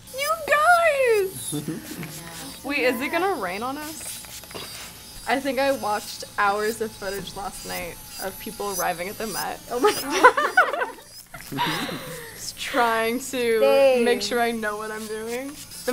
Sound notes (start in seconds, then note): 1.3 chuckles; 11.3 women giggling